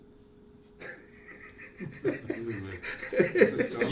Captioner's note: laughs